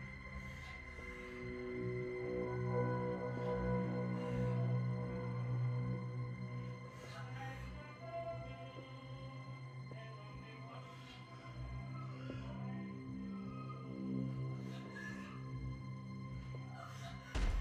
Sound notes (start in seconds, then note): 2.5 monster rasping softly; 2.5 soft tense music; 12.6 monster rasping softly; 12.6 soft tense music